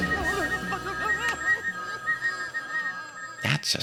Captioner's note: crying